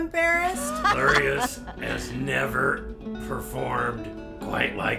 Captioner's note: laughter